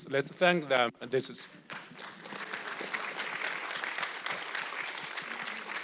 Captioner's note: audience clapping